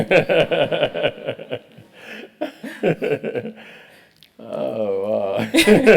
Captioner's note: laugh